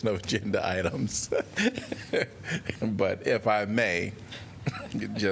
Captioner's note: laughter